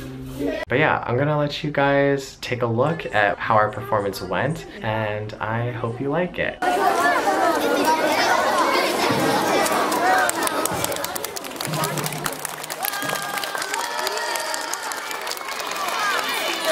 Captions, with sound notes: But yeah, I'm gonna let you guys take a look at how our performance went and I hope you like it. (crowd talking) (applause and cheering)